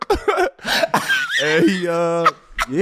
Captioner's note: laughing